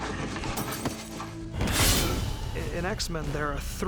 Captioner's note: grunting